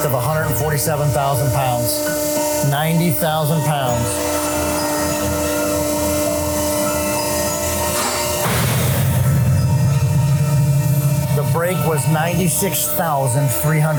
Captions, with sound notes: of 147,000 pounds. 90,000 pounds. (machine whirring) (metal thuds) The break was 96,300 pounds.